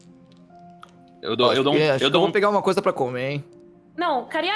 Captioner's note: stutters